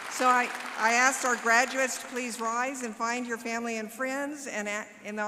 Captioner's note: applause